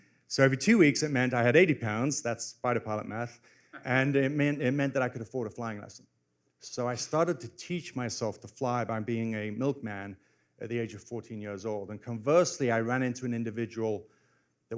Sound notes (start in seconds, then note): none